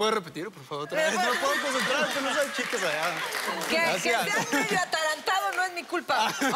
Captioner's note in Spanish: Risas